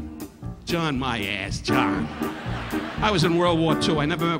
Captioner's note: audience laughing